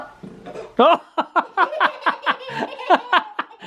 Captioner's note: laughing